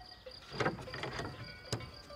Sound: cowbells are ringing

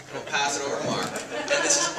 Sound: audience laughs

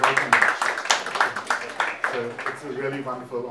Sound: audience applauding

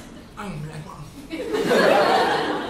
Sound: mumbles in his sleep

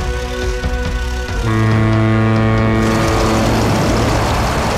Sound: ship horn blares

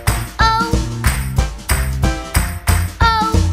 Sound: clap

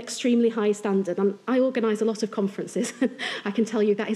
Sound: chuckles

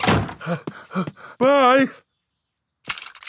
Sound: snorts; panting

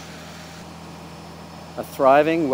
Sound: atmosphere humming

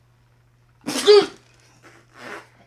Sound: sneezes

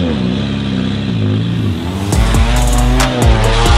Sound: engine revving

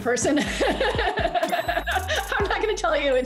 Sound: laughs

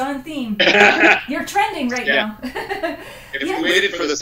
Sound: laughs

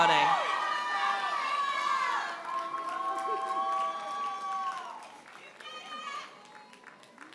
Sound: audience members holler and applaud

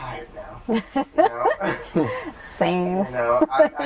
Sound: laughter

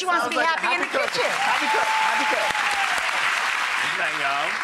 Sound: audience applauding

